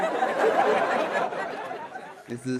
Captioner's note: audience laughs